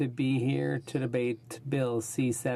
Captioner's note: speaking in french